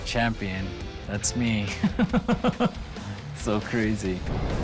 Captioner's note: laughs